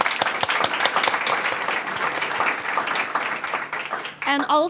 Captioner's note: audience applauds